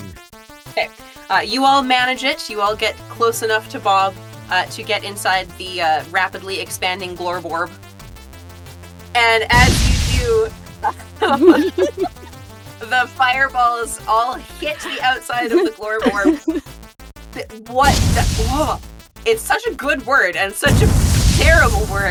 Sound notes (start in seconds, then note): 9.5 explosion; 17.4 explosion